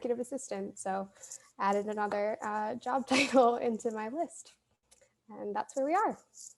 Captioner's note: laughter